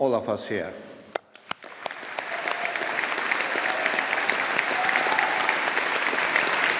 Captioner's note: audience applauding